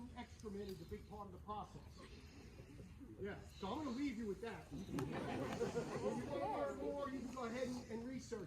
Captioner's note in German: Gelächter